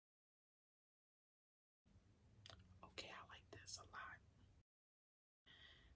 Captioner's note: whispers